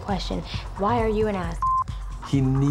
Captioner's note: beep